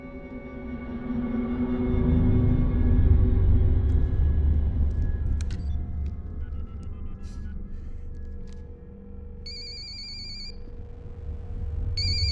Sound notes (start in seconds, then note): 5.4 line ringing; 5.4 speed-dial beeping; 9.4 phone ringing